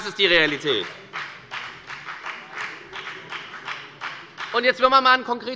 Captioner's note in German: Beifall bei der FDP